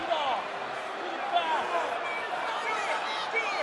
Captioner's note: crowd chatter